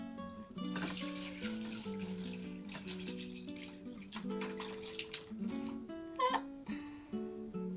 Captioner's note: sound of cherries and juice splashing